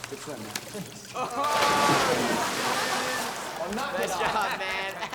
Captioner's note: students laugh